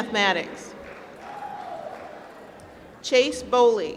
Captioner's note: applause